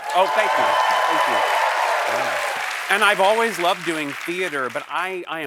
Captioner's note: applause